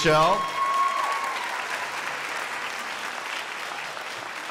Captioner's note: crowd applauding